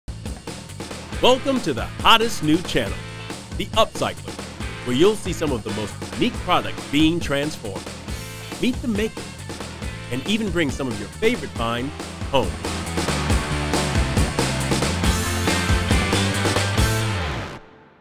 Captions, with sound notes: (upbeat music) - [Voiceover] Welcome to the hottest new channel, The Upcyclers, where you'll see some of the most unique products being transformed. Meet the makers, and even bring some of your favorite finds home. (upbeat music)